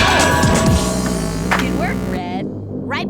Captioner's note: thud